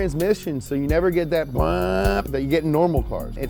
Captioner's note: imitates engine revving